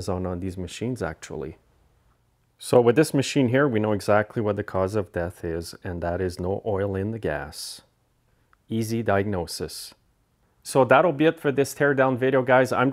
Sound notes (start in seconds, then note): none